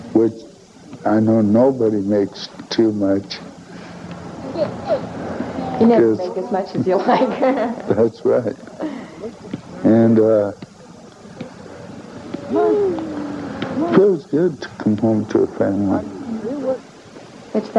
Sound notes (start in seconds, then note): 4.4 child laughing; 7.4 laughing